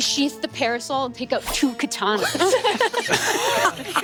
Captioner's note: metal slicing; players laughing